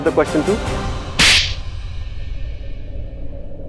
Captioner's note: Karan slaps